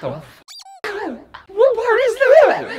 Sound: squeaking

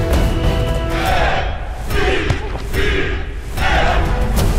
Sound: players chanting

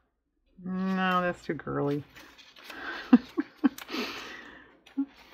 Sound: laughs

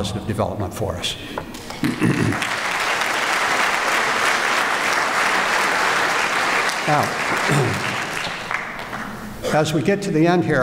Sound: applause

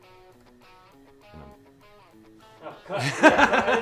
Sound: laughter

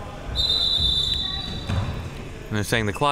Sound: whistle

